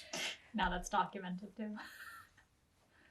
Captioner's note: laughing